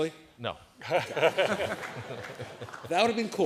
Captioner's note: laughter